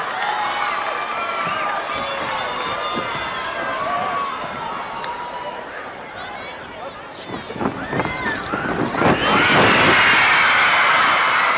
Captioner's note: crowd cheering